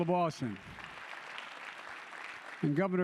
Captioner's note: applause